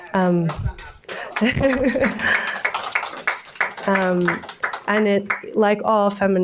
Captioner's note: audience applauding; laughing